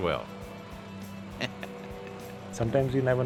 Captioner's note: chuckles